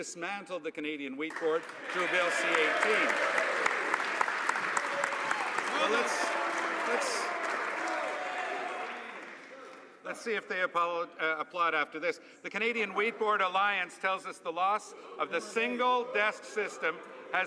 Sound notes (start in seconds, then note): 8.4 some Applause